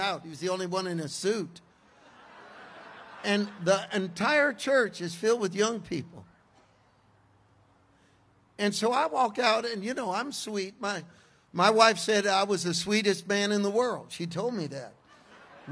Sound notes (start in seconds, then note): 1.9 congregation laughs; 15.0 congregation laughs